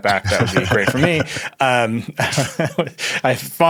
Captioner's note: chuckling